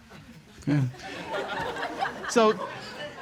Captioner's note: audience laughs